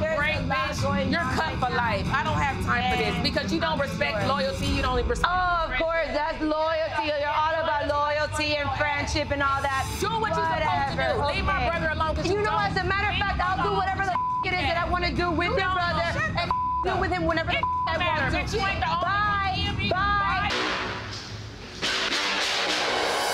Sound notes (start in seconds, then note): 14.0 beep; 16.4 beep; 20.4 intense instrumental music